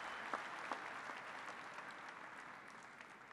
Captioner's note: applause